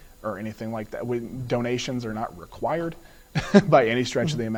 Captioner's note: laughs